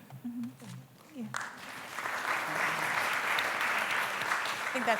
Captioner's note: applause